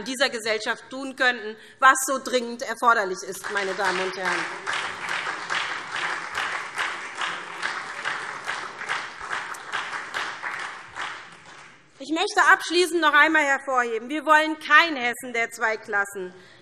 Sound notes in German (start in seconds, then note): 5.3 Beifall SPD